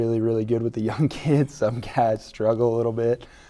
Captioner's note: laughing